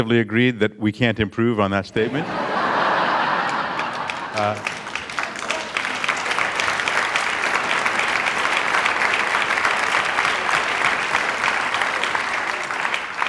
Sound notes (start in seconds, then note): 2.0 laughter and applause